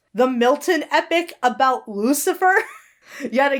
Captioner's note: Hana laughs